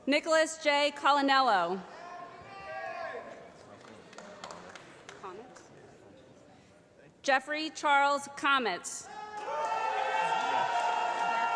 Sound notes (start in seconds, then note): 3.6 applause; 9.1 cheering